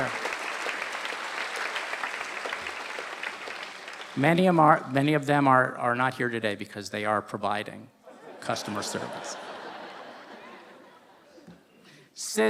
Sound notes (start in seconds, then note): 0.0 applause; 8.0 laughter